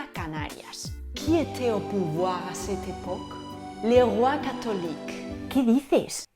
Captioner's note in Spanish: Habla francés